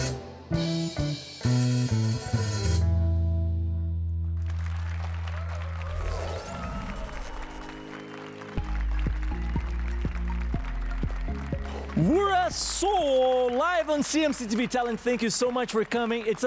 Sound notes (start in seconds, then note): 6.3 applause and cheers